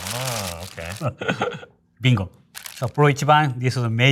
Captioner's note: chuckling